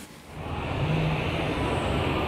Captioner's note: traffic noise